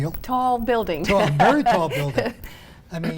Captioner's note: laughing